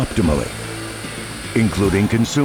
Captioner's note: grinding sound